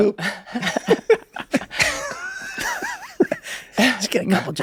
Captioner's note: group laughs